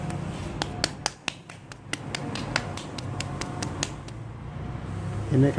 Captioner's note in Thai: เสียงตบหน้าแข้ง